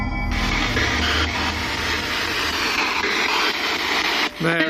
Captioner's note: static crackling